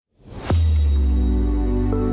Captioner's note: logo slams